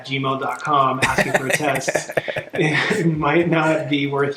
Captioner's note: both laughing